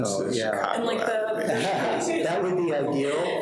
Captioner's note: people laughing